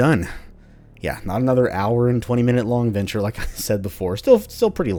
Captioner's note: chuckles